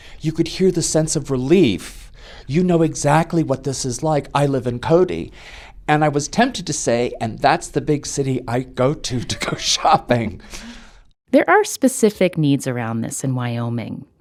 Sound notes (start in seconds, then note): 9.1 laughter